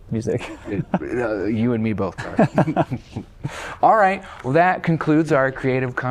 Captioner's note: laughter